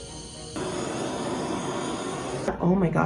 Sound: blowtorch whirring

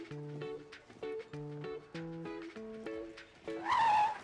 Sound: skidding

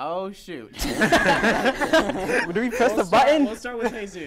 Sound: hosts laugh

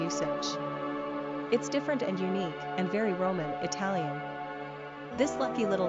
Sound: Italian

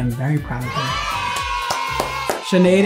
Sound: kids cheering

